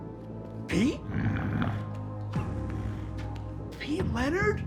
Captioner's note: Pete growls